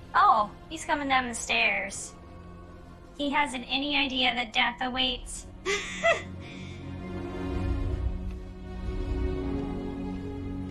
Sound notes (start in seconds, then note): 5.6 laughs